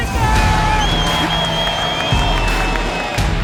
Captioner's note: crowd cheering; upbeat rock music